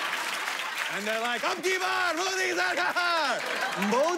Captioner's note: speaks foreign language